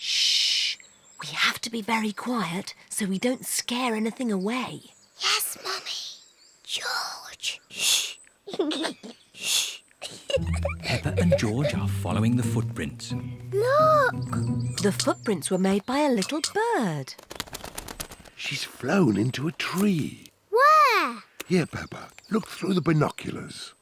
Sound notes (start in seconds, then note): 5.1 whispers; 10.0 giggles